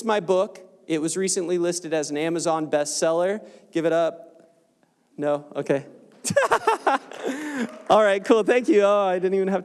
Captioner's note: short Applause